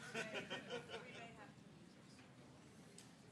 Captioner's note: laughing